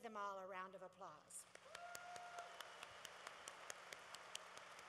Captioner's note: applause